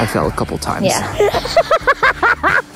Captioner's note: laughs